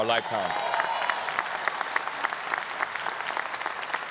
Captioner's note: audience applause